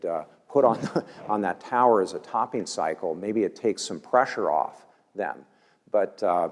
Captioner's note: laugh